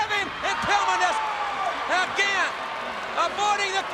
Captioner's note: crowd clamoring